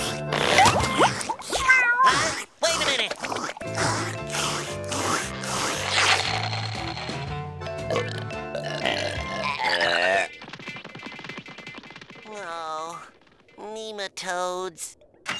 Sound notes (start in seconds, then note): 5.9 slurping; 7.7 burping